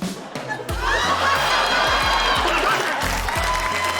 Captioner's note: laughter, applause